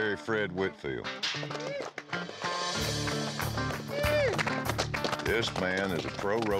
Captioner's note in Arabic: تصفيق